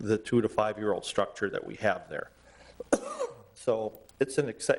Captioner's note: coughs